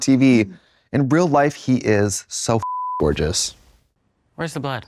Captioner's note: beep